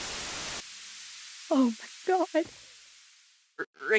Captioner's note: tv static